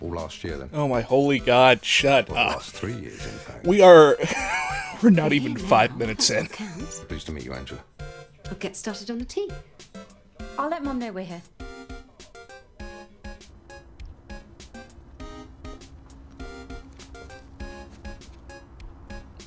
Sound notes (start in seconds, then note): 3.1 wheeze